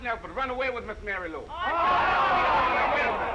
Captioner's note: all shouting